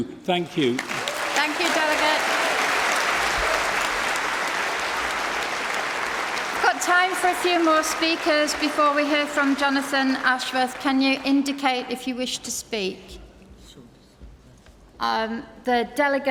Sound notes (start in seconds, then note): 11.0 applause